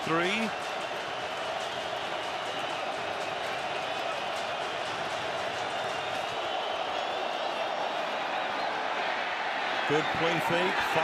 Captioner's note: crowd cheering